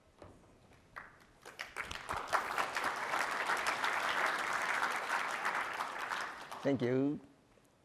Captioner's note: applause